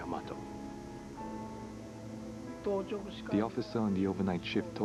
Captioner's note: speaking Japanese